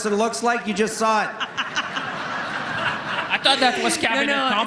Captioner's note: laughter